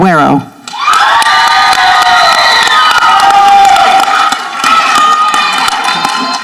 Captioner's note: people applauding and cheering